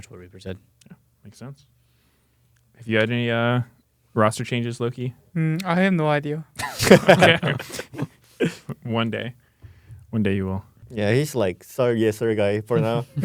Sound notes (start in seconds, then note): 6.6 laughs